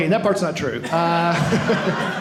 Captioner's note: audience laughing